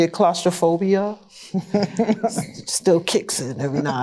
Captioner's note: laughter